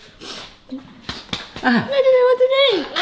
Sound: hand smacking

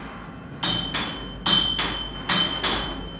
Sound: clanking

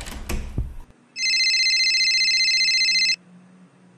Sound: phone ringing

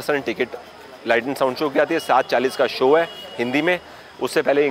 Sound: Hindi

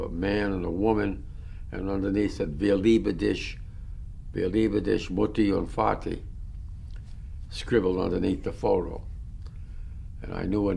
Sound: german

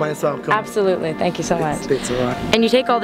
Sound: voiceover

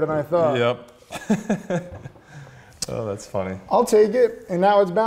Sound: laughing

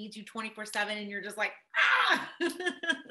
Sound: laughs

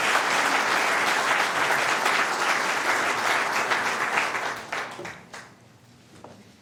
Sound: applause

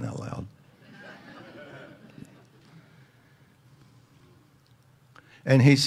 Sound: audience laughs

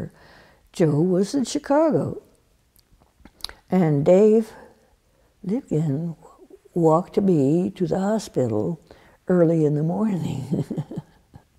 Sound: laughs

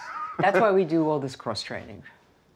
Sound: laughs

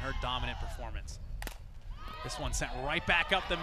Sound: bat hits baseball

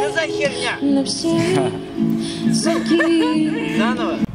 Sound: laughs

